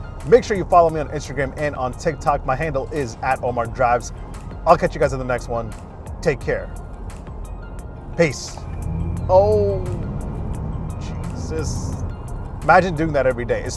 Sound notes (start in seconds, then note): 8.5 car whooshing